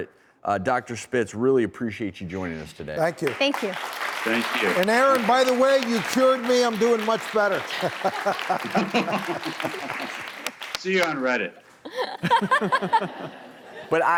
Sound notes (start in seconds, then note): 6.9 laughs; 7.6 laughter; 11.8 laughter